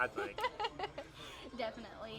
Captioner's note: laughs